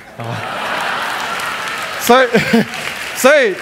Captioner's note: applause